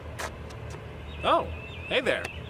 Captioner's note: shoes scuff